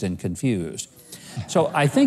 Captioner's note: audience murmuring